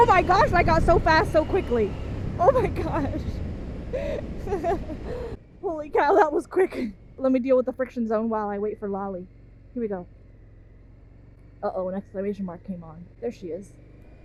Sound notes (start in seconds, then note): 3.9 laughing